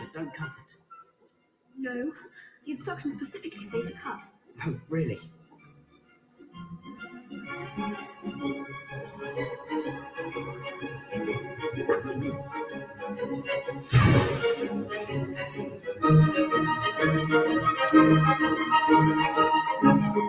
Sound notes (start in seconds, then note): 10.0 foosh!